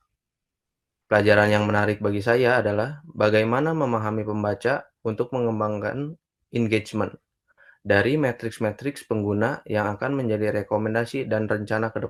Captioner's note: speaking indonesian